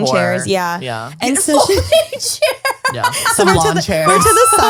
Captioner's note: laughs